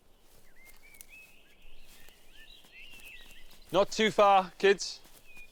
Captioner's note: birds chirping